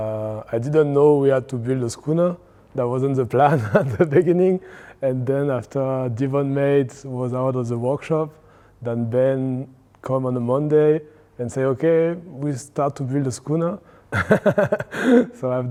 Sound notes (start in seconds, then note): 14.1 laughing